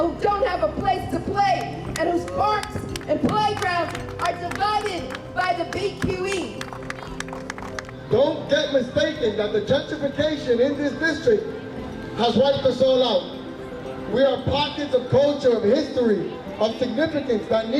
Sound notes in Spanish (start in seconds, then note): 6.5 crowd clapping